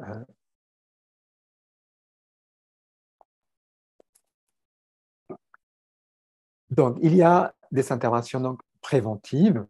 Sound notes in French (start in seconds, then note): 0.6 silence